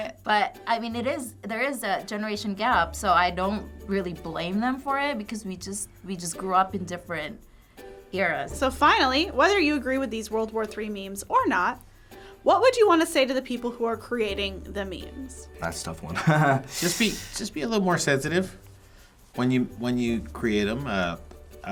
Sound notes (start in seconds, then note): 16.1 laughs